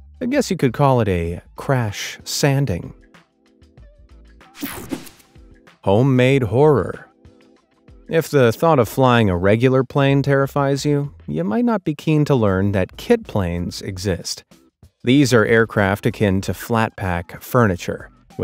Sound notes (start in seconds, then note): 4.5 screen whooshing